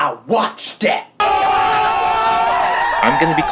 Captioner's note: mindless hollering